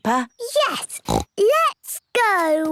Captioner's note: snorts